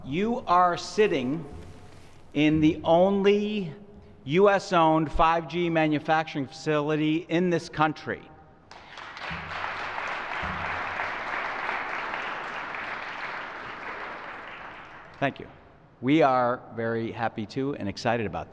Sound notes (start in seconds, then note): 11.0 applause